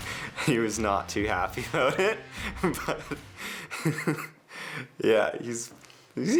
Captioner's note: laughs